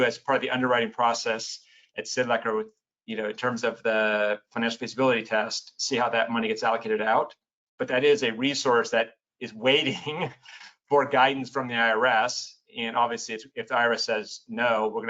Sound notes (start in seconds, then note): 9.8 laughs